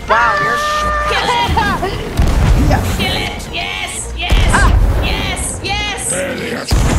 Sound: laugh

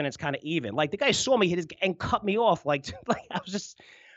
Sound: laughs

